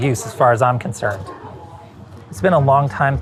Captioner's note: people chattering